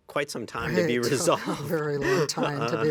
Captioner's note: laughs